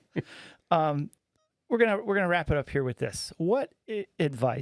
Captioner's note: laughing